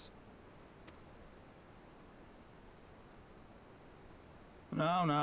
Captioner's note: silence